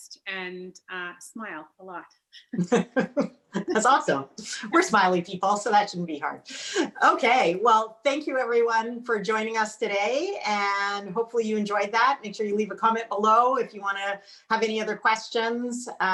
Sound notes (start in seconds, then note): 2.4 both laugh